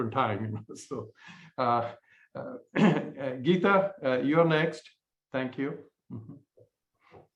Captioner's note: laughter